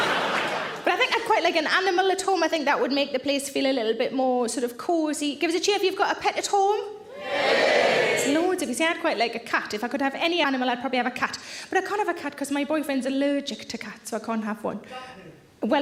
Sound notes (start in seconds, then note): 7.2 audience cheering